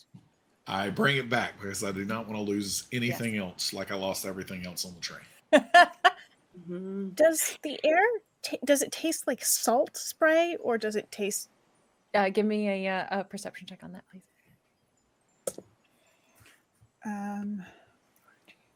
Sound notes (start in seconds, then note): 5.5 laughs